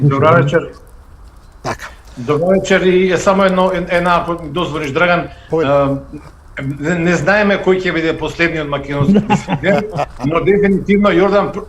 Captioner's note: laughter